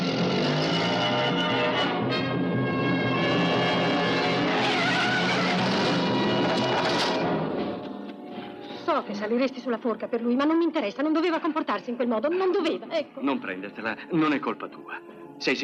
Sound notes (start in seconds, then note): 4.9 tires squeal